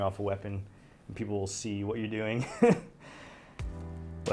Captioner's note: laughs